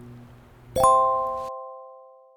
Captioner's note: ring noise